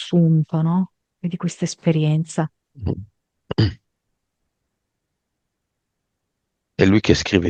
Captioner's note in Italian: schiarire la voce